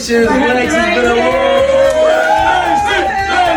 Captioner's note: cheering